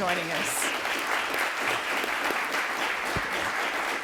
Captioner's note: applause